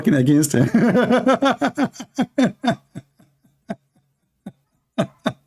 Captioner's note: Ketawa